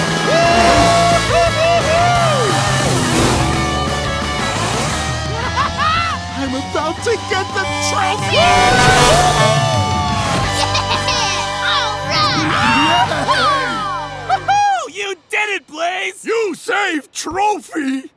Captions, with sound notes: Woo-hoo-hoo-hoo! [laughing] I'm about to get the trophy-- [honking] Woo-hoo-hoo! - Yeah, alright! - Yee-haw! - Woo-hoo, you did it, Blaze! - You save trophy!